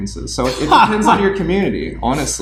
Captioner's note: laughing